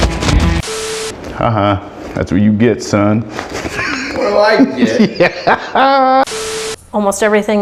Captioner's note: laughing